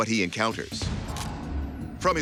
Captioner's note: camera shutter clicks